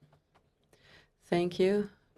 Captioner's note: speaking French